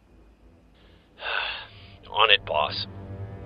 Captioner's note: sighs